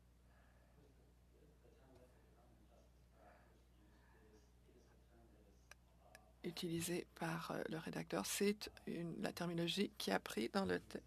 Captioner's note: speaking French